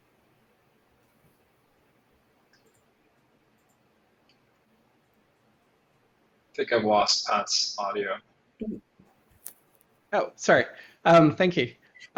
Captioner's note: no audio